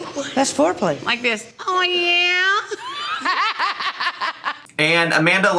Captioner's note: laughs